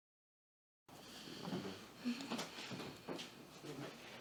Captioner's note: sighs